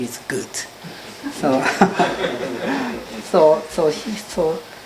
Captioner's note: laughter